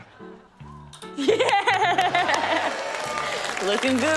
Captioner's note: laughs